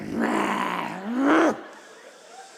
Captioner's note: growls aggressively